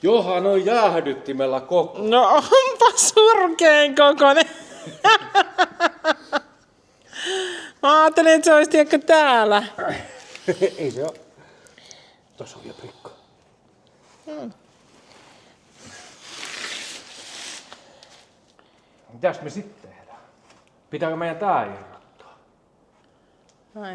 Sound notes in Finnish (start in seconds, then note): 5.6 naurua